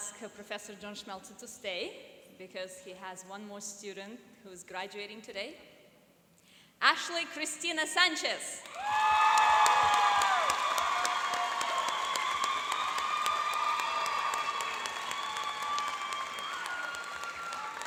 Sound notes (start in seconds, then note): 8.6 cheering and applauding